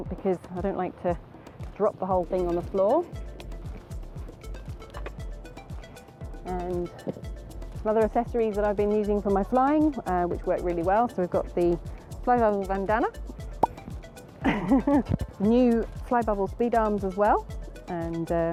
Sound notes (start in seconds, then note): 3.9 upbeat music; 13.6 popping sound